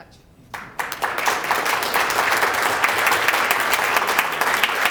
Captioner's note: applause